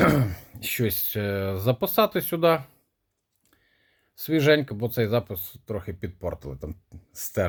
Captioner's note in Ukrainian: прочищення горла